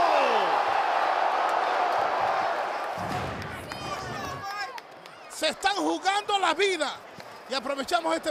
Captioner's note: applause